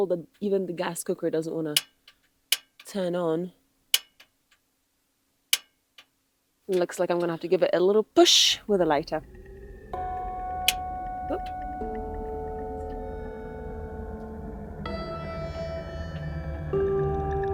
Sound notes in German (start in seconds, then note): 1.4 Gas klickt; 3.9 Klicken des Gases